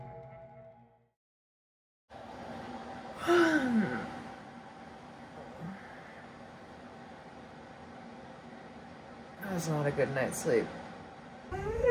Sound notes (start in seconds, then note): 3.2 yawning